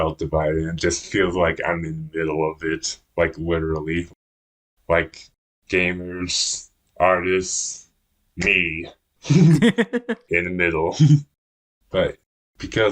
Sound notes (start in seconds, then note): 9.2 both laugh; 9.3 laughs